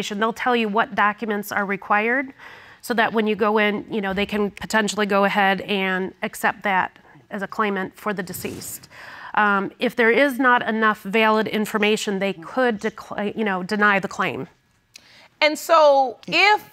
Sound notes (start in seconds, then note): none